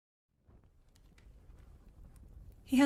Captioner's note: fire crackles into the background